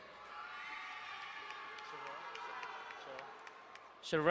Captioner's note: crowd cheering and applauding